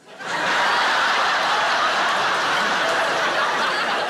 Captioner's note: audience laughing